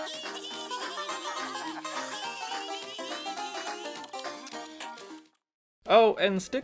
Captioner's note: chewing noises; Toads, Luigi, and Princess Toadstool laughing